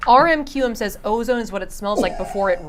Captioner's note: coughs and chuckles